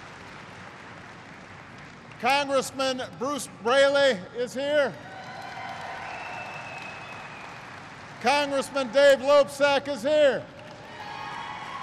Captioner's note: applause